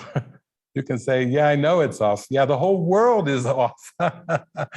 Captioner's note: laughing